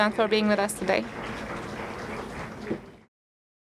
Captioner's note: applause